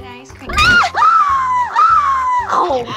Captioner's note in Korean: 아이고